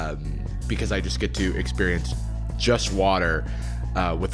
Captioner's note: none